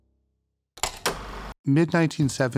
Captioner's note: film reel clacking